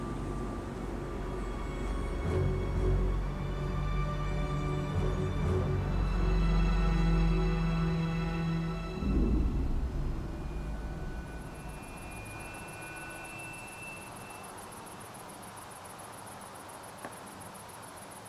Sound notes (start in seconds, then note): 1.2 eerie music; 12.7 crickets chirping